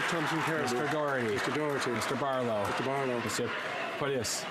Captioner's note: applause